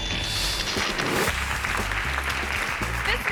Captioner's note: screen whooshes; audience clapping